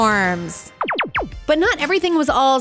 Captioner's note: sound effect